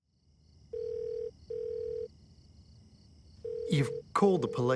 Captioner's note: telephone ringing